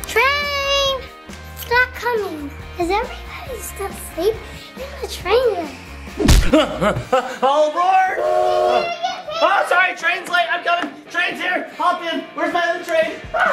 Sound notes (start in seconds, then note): 6.1 gasps; 8.1 train whistle